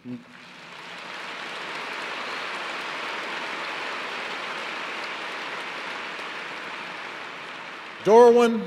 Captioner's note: applause